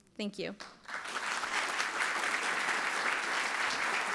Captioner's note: applause